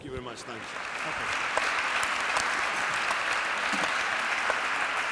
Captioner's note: 大家熱切鼓掌歡迎